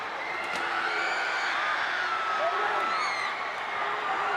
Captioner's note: crowd cheering; crowd screaming